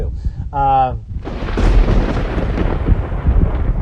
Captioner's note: thunder crashes